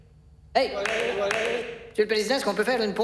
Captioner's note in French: applaudissements